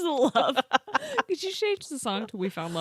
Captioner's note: laughing